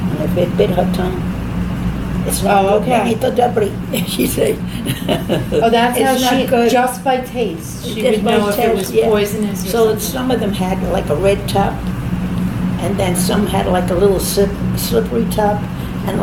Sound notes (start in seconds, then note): 3.8 laughs